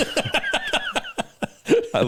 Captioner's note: laughing